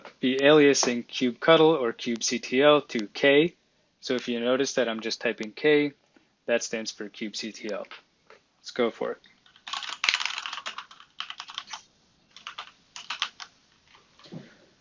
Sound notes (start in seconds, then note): 9.4 typing